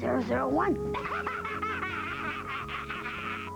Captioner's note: laughing